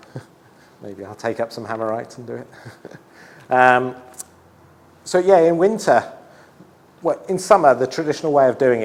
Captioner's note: laughs